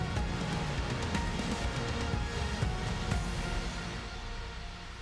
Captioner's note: applause